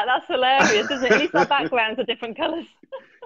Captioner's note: laughs